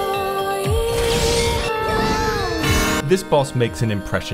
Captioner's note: earsplitting scream